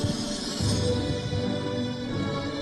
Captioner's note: none